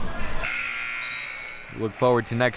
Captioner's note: buzzer buzzing